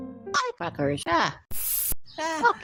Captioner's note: spray Sound